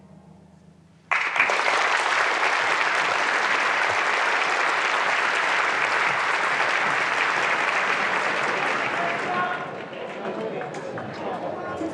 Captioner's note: applauses